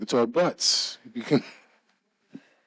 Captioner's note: laughs